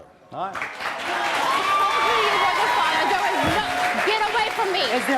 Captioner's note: audience clapping; audience cheering